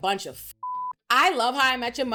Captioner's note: beep